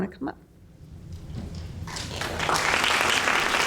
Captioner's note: applause